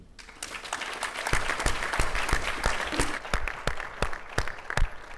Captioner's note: audience applauding